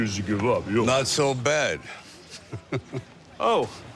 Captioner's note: chuckles; normal voice